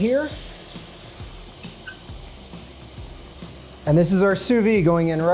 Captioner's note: meat sizzling